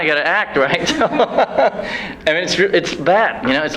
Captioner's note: laughs